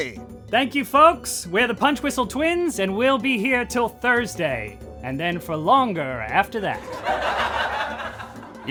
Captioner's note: laughter